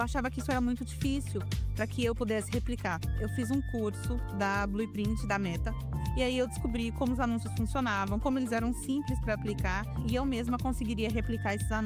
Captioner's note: speaking another language